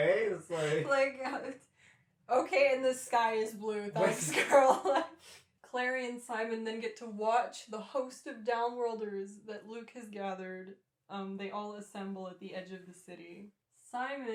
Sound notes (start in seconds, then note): 4.0 laughter